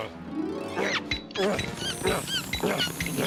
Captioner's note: air hose squeaking; panting